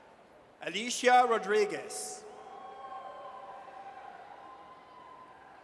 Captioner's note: audience cheers